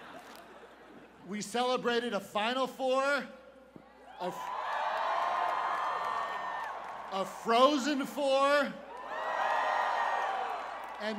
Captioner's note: laughter